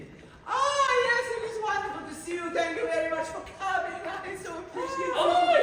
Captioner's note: he babbles self-importantly